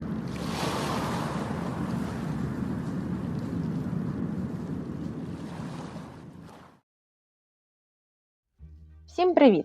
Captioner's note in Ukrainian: звуки хвиль